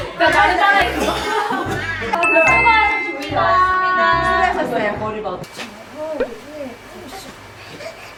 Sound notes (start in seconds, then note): 0.8 cough